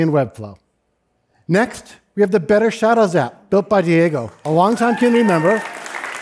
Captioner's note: applause